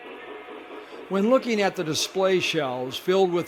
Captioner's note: voiceover